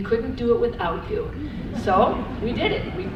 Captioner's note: audience laughs